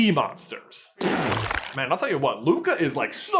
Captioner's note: splooooooooooooosh